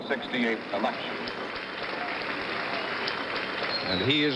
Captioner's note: applause